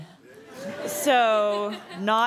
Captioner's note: cheering and laughing